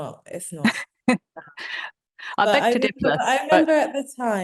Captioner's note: chuckling